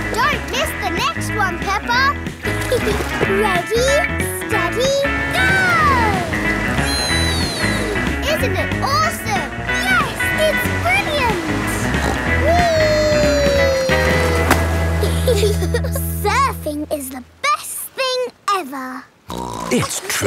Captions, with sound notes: Don't miss the next one, Peppa! (GIGGLES) Ready, steady... Go! Whee! Isn't it awesome? Yes! It's brilliant! (SNORTS) Whee! (GIGGLE) Surfing is the best thing ever! (SNORTS)